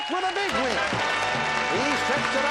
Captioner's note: bell